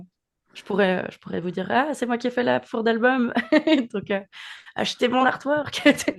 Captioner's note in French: rires